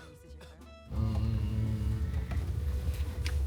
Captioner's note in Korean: 으으으음